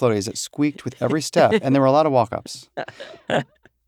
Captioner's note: chuckle